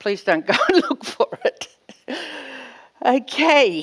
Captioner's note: laughs